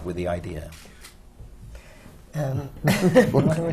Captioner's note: laughs